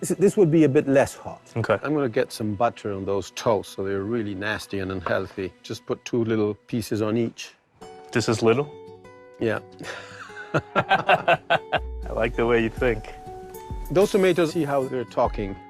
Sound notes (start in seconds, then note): 9.8 laughs